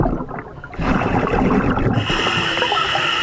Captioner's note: regulator hissing; water burbling